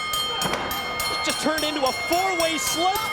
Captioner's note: bell ringing